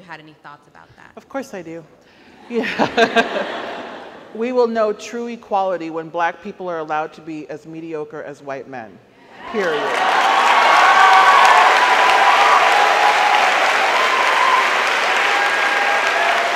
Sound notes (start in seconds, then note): 2.5 laughs; 9.3 audience cheers